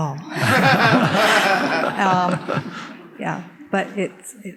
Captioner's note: audience laughing